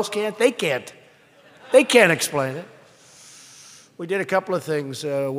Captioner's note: laughter